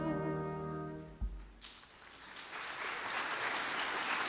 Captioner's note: audience applause